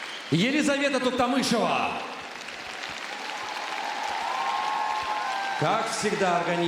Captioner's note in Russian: аплодисменты